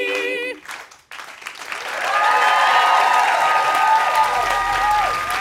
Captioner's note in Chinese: Applause; 掌聲